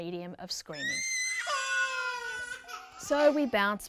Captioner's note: babies screaming